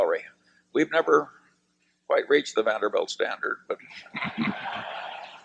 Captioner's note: laughter